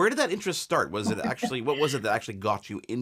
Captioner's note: laughing